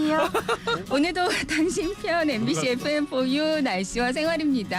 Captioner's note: starts reporting the weather while giggling